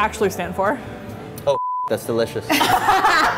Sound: beep; both laughing

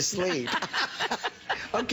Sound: laughter

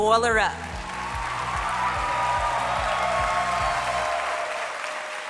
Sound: audience cheering

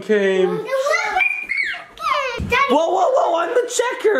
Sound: shrieks excitedly

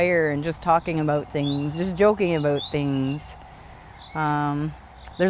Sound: none

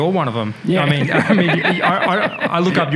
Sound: laughs

